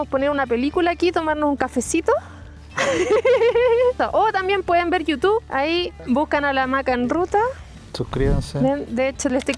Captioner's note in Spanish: risas